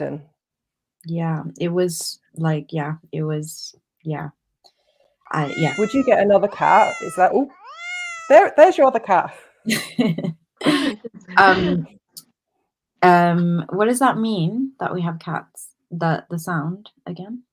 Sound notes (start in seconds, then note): 5.3 miaow noise; 5.3 miaow sound; 9.6 laughter